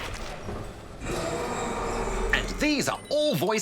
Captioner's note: roars